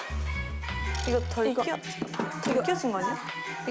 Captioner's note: confused